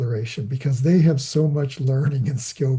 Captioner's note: laughing